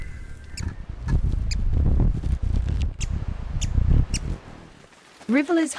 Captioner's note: bird chirping